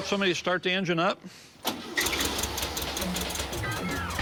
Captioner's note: engine starting